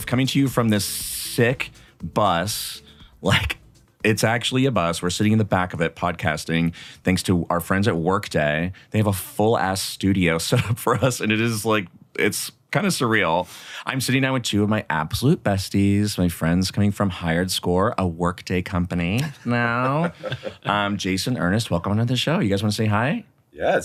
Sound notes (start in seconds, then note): 19.2 chuckle